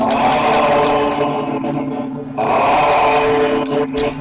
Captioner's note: gandalf humming